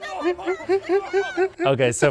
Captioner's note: laughs